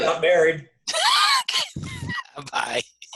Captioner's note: laughs